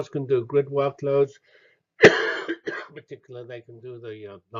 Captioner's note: cough